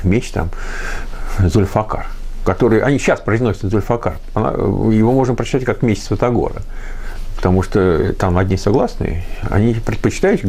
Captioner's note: in Arabic